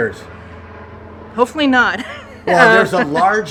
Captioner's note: chuckles